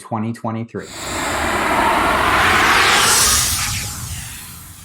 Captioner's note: cloud whooshing